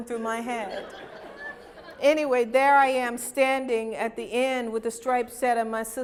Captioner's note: laughter